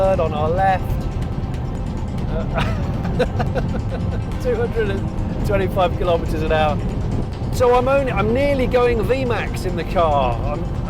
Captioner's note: laughing